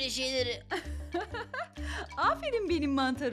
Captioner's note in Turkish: Gülme sesi